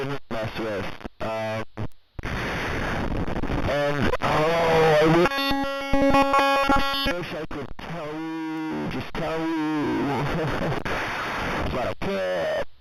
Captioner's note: glitches